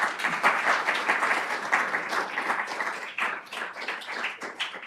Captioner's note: applause